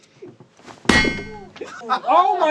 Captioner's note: sharp, metallic ding